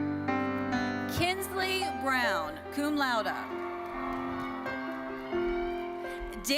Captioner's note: audience cheering